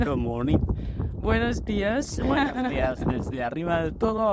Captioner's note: spanish